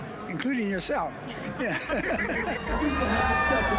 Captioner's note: laughter